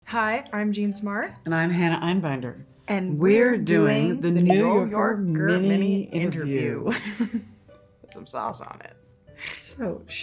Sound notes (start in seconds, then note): 7.1 Jean chuckles